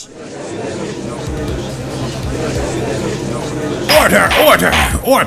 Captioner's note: gallery chattering